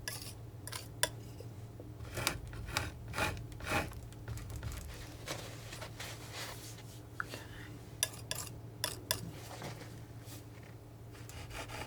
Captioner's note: scratching